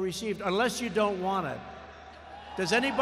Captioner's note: applause